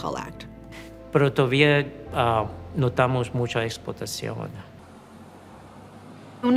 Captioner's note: speaking in Spanish